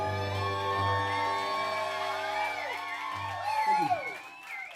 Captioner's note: crowd cheering and applauding